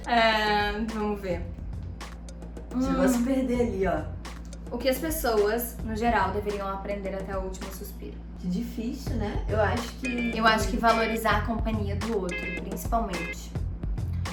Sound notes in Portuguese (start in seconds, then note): none